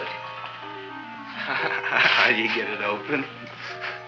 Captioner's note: chuckles